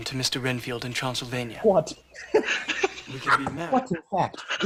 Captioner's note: laughs